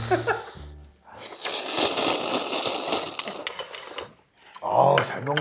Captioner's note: slurp